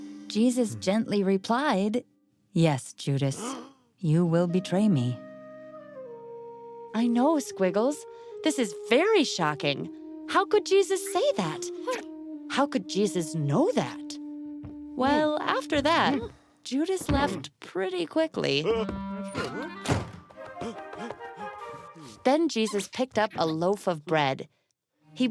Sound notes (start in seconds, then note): 19.3 door slamming; 20.6 panting